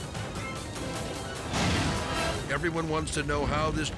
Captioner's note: edgy dramatic music; fire exploding